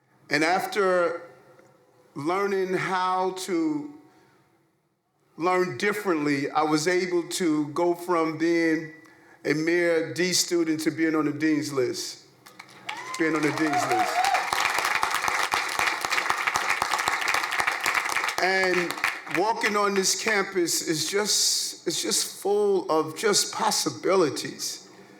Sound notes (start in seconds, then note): 14.9 crowd cheering